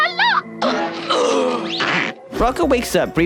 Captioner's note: gags